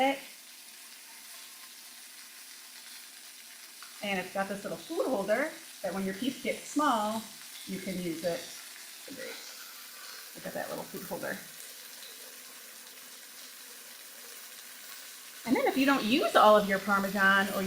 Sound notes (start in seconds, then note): 0.3 chicken sizzling; 12.0 Parmesan rustling; 12.0 chicken sizzling